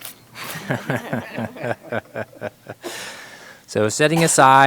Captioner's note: members laughing